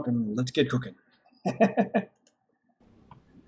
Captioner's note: chuckles